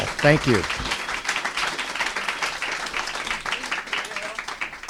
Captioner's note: applause